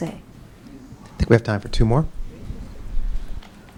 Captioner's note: voiceover